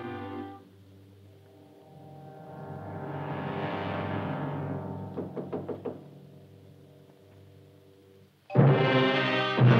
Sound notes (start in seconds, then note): 5.2 knock at door